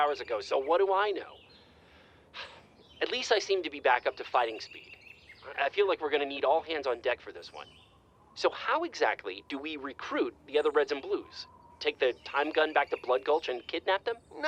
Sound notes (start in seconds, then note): 1.7 sigh